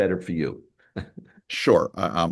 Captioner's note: laughs